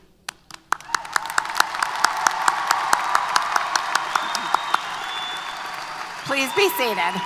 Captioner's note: applause & Cheers